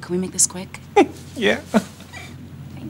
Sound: chuckles

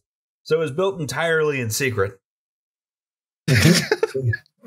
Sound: laughter

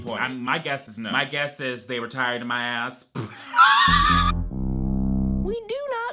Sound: laughs

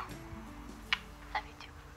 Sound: smooches

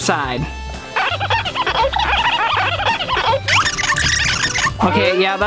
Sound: cartoonish squeaking

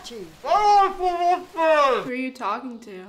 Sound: Thomas continues mumbling

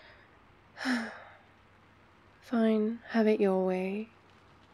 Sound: sighs

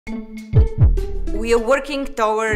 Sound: heart beats above bouncy music

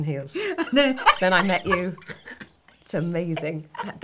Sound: laughing

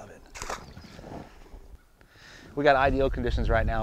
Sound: water splashes

